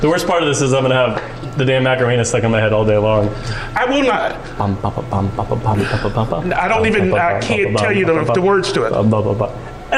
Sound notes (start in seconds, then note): 4.5 humming song